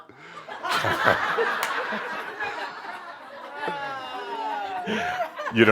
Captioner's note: someone says “No” and audience laughter